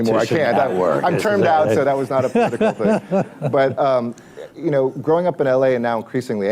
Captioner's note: laughter